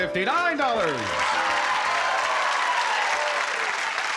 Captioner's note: applause